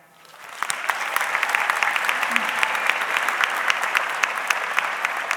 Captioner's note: audience clapping